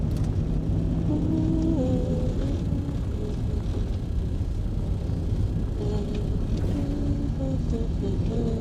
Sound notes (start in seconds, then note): 5.7 Elisa continues humming